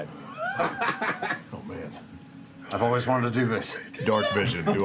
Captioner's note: laughter